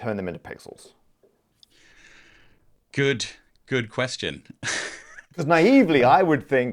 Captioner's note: laughs